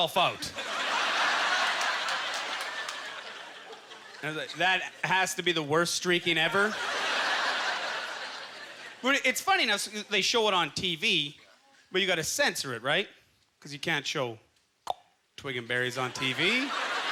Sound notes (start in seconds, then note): 0.3 audience laughter; 6.3 audience laughter; 13.1 clicks tongue; 16.0 audience laughter